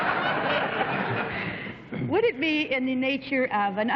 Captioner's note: laughter